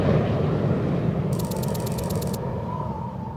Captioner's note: wind blowing